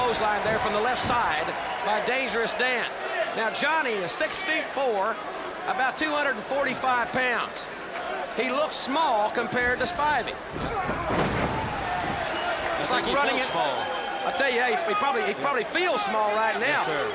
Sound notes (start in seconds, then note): 11.3 crowd chatter